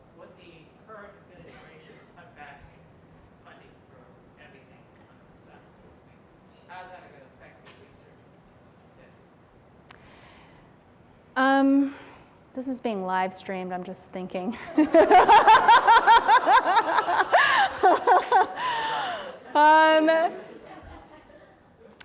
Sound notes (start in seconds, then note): 14.6 laughter